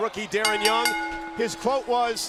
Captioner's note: bell ringing